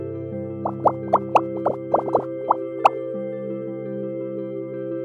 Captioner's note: bubbles popping